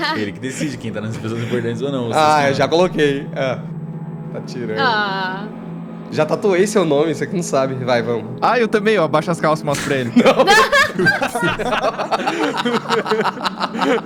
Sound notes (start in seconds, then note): 9.7 laughing; 9.7 laughter